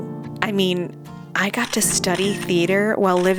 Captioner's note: camera Flash